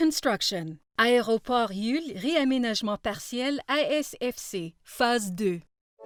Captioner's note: speaking in foreign language